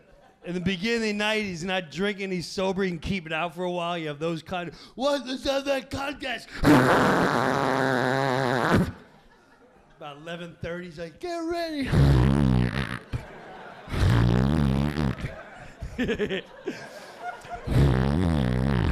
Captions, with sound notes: In the beginning of the night he's not drinking, he sober and keep it out for a while. You have those kind, "Well, just have that contest." (imitating horn blowing sounds) About 11:30 he's like, "Get ready." (audience laughing)